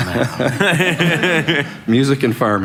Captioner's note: laughter